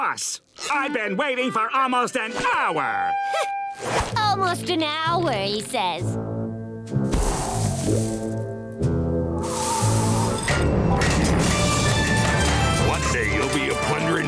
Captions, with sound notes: I've been waiting for almost an hour! [scoffs] Almost an hour, he says. One day, you'll be a plunderin' pirate